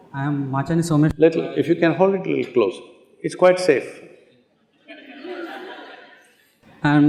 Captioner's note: laughter